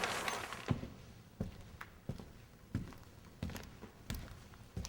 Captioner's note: footsteps echoing